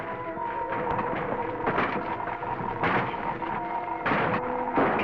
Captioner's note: door banging